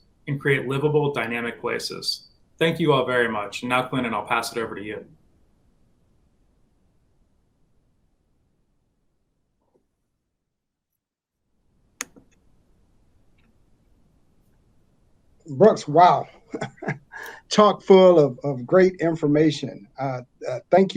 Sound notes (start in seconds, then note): 16.2 chuckles